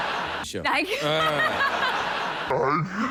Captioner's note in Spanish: risas